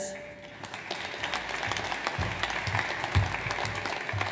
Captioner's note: audience applauds